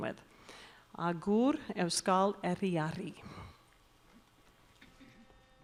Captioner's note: announcer speaking in Basque